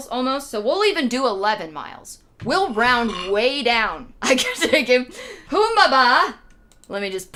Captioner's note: laughing